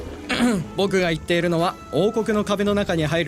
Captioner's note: clears throat